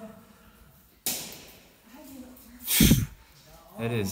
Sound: splat; echo

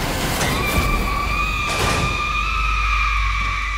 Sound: suspenseful music; Lydia screaming

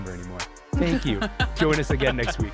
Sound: laughing

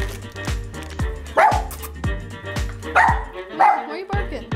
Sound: dog barks

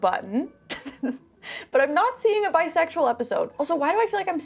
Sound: laughs

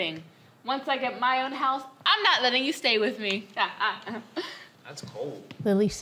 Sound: laughs

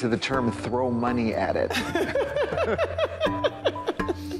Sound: both laughing

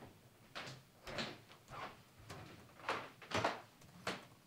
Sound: floor creaking

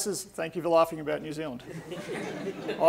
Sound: audience laughing

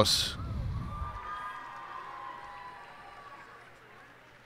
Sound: cheers and applause

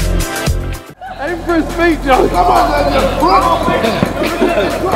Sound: laughing

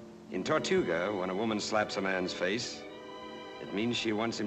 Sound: none

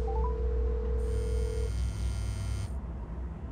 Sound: dialing; phone vibrates

